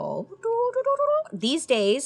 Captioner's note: trills